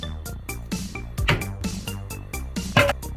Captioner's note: the sound of hitting the cutting board